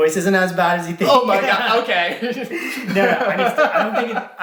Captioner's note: laughs